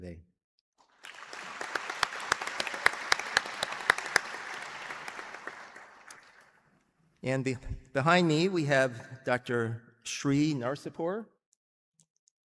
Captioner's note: applause